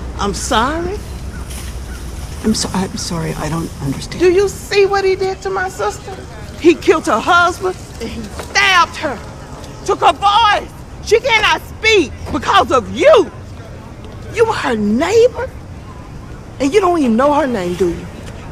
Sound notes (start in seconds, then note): none